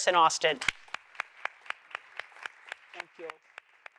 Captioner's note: audience applauds